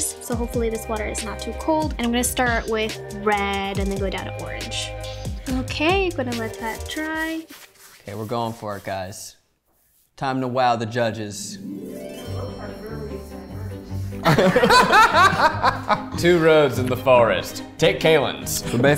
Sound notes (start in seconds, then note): 11.5 whimsical music; 14.2 both laughing